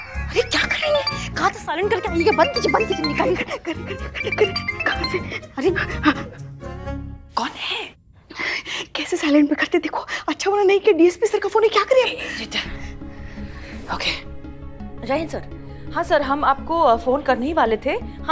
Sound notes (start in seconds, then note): 4.1 mobile ringing; 6.3 panting